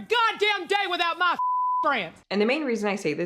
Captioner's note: beep